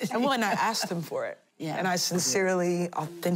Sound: laughing

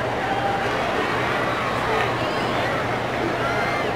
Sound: crowd cheering

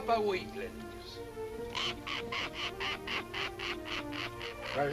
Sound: cackling

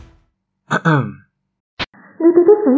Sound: cough cough

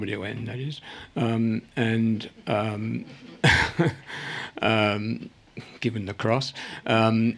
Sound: laughs

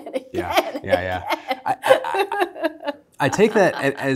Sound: laughter

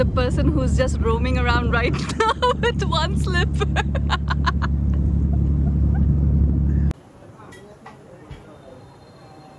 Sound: laughs

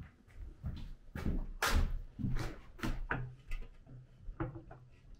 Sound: feet thudding

